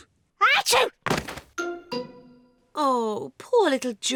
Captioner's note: sneezes